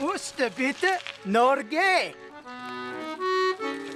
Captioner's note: speaks norwegian